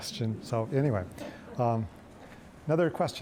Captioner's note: audience laughing